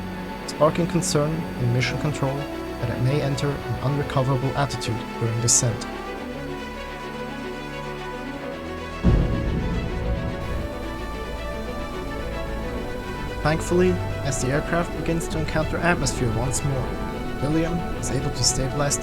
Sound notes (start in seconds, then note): 9.1 sonic boom